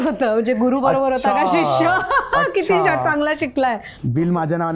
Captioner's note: chuckles